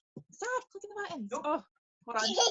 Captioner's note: baby chuckles